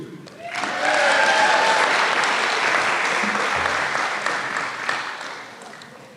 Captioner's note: applause